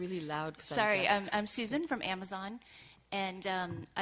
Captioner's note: voiceover